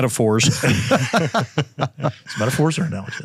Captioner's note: group laughs